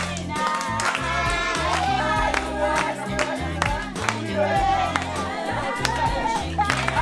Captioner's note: applause